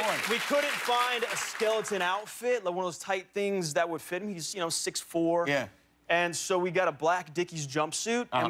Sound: applause

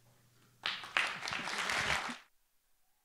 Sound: applause

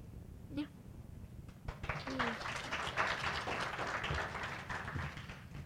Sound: applause

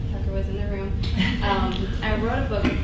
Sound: laughing

